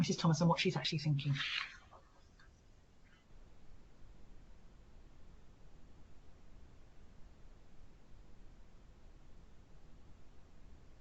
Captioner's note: silence